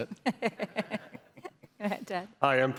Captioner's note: laughter